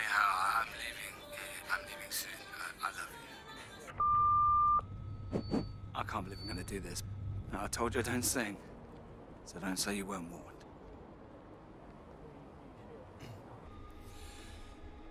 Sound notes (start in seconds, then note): 4.0 beep